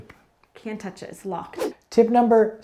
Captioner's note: air whooshing